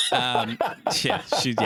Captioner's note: laughing